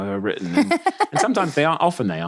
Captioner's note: laughing